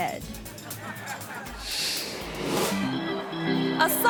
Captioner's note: audience laughs